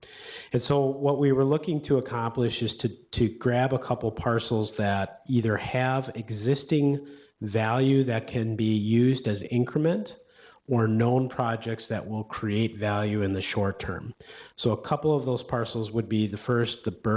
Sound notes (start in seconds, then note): none